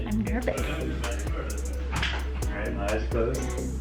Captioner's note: murmuring